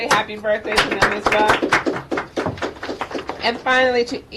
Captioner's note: applauding